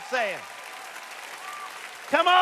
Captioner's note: applause